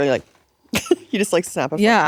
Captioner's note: chuckling